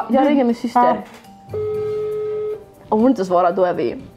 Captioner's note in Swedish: telefonton